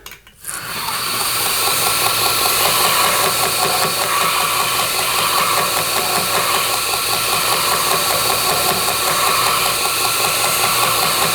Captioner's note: grinding